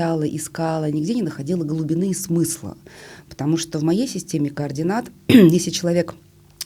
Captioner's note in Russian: откашливается